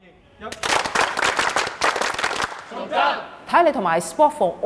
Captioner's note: clapping